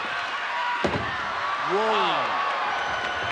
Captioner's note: body thuds